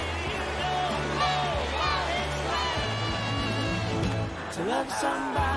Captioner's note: crowd cheering; screaming